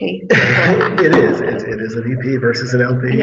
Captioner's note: all laughing